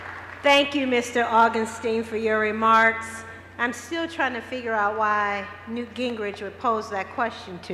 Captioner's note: cheers and applause